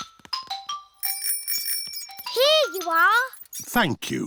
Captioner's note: bell rings